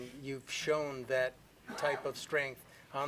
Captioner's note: laughter